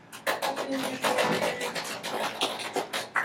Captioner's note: applauding